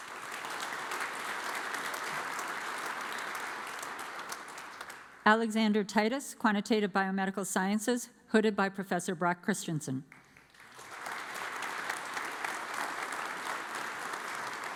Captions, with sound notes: (audience applauds) Alexander Titus, Quantitative Biomedical Sciences, hooded by Professor Brock Christiansen. (audience applauds)